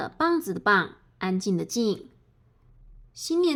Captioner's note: quiet